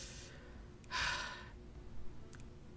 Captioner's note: sigh